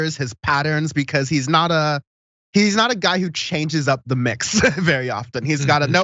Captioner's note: laugh